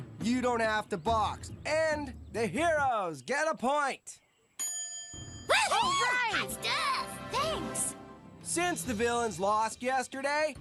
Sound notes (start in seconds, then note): 5.5 heroes Cheering